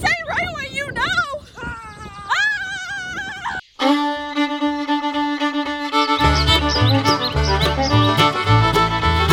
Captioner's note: best friends screaming